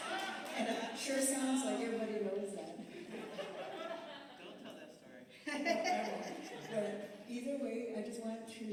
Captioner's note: laughter